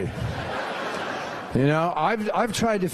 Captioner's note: laughter